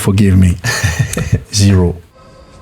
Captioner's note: laughs